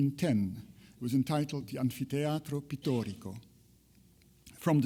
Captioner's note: speaks in foreign language